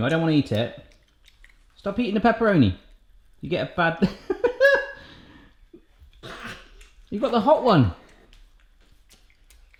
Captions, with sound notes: I don't want to eat it. Stop eating the pepperoni. You get a bad (laughs). You got the hot one!